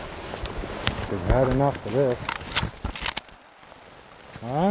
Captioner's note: click